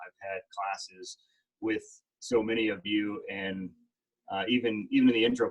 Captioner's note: none